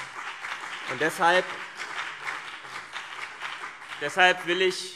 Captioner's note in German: Beifall CDU und BÜNDNIS 90/DIE GRÜNEN